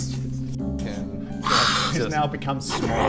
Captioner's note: hisssss